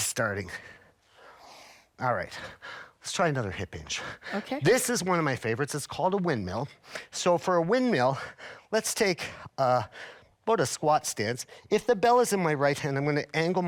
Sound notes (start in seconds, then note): none